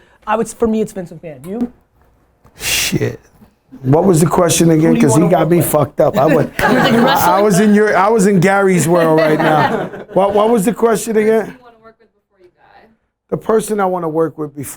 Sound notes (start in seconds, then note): 11.1 laughter